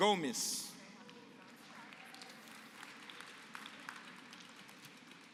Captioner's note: applause